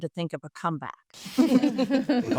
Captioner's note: group laughs